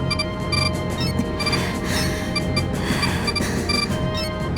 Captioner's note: labored breathing